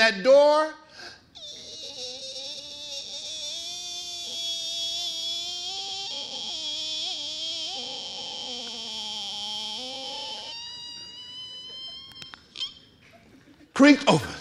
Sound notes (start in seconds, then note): 1.4 door creaking